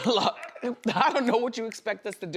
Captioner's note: snapping fingers